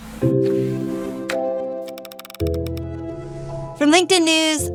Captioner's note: bright music; computer keys clicking